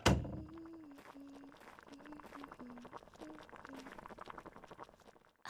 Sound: 문이 열리는 소리; 찌개 끓는 소리

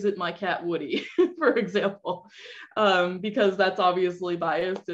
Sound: laughter

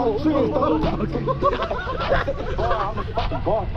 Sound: laughs

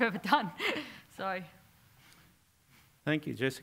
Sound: laugh

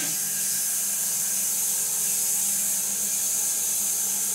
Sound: saw whirring

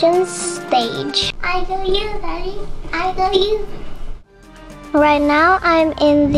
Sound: baby speaking

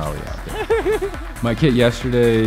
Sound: laughs

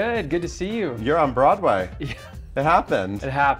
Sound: laughs

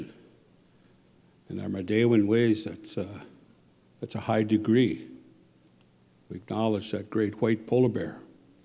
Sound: speaking Ojibwe

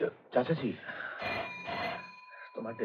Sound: phone Ringing

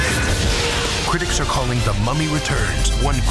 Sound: voiceover

